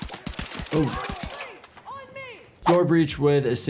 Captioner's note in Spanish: Soldado gritando